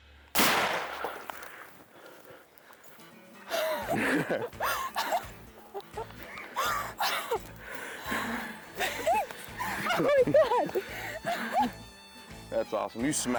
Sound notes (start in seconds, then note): 0.3 gun shoots; 3.2 cheerful music begins; 3.4 laughing